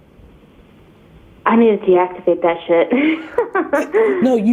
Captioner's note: laughs